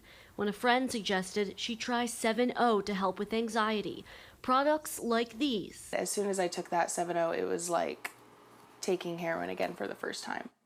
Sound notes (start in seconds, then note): none